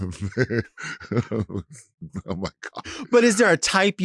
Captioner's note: Latrice chuckling